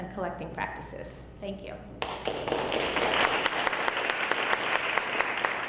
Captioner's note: audience applauding